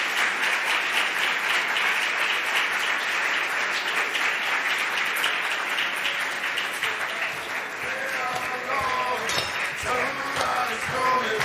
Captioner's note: applause